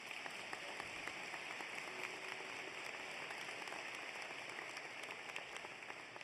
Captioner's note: applause